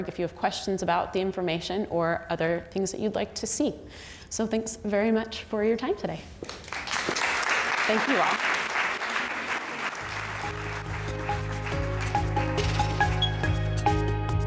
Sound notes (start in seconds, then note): 6.6 audience applause; 10.0 gentle uplifting music